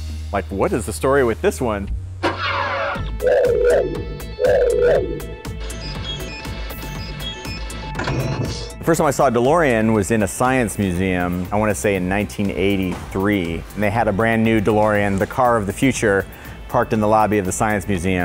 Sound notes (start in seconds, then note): 3.0 upbeat music; 6.6 beeps